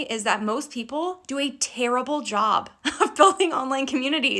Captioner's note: laughing